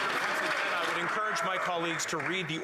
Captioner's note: applause